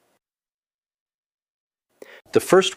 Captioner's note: pause